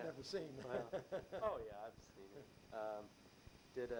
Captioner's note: laughs